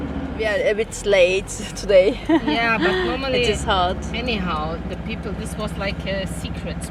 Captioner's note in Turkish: kahkaha